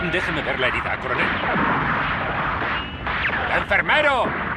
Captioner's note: guns fire